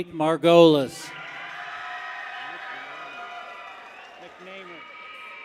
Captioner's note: people cheer